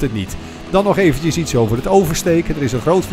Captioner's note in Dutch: Voiceover